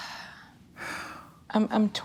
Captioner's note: sighs